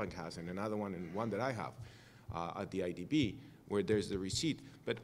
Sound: cough

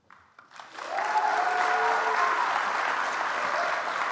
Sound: audience applauds

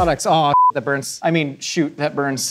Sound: beep

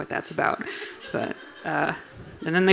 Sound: audience laughing

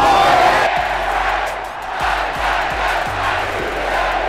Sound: jubilant cheering

